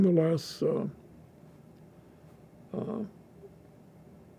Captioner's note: pauses 6 seconds